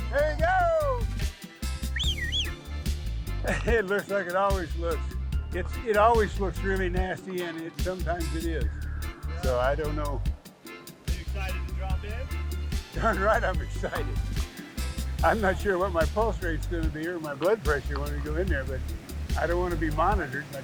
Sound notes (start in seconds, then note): 1.8 whistles; 11.5 pat